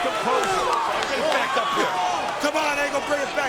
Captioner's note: crowd chattering